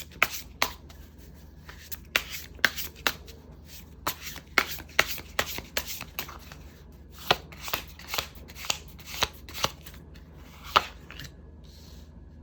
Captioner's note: drawing cards